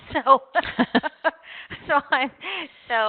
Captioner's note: chuckles